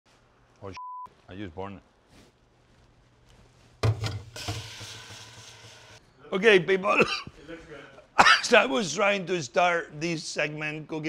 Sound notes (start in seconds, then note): 3.8 water running; 4.2 water steaming; 6.9 coughing